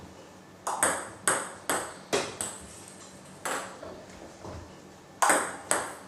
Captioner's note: ball ping pong hitting continues